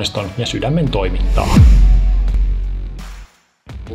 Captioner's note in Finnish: siirtymä-äänitehoste